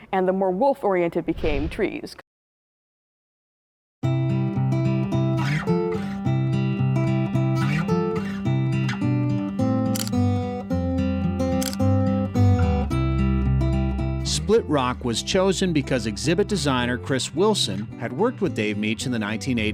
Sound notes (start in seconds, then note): 4.1 gentle guitar music; 7.4 camera shutters